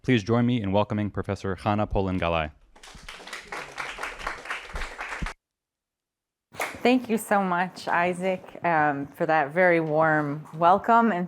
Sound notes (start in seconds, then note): 2.7 applause